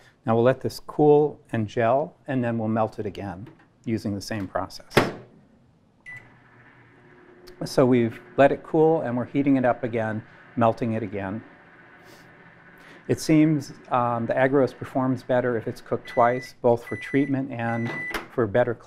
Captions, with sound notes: Now, we'll let this cool and gel, and then we'll melt it again using the same process. [CLOSING MICROWAVE] [BEEPING] So we've let it cool and we're heating it up again, melting it again. It seems the agarose performs better if it's cooked twice, both for treatment and for better